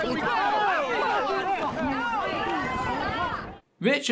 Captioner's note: mixed chatter in response to being karma-punched